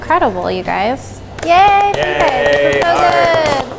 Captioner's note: applause